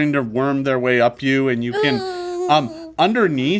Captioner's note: Omelet whines in disgust